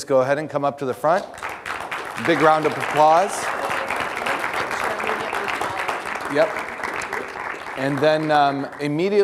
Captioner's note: audience applause